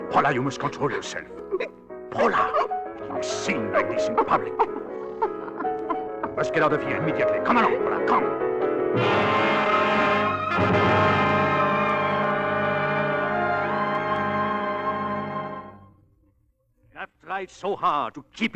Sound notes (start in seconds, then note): 6.0 laughing; 9.6 dramatic music